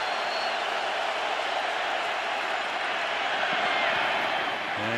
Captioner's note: cheering